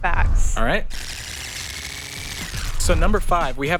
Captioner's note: tape squealing